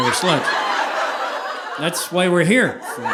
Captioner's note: audience laughing